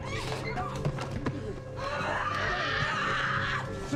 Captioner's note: screams